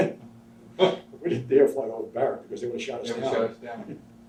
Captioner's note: both laughs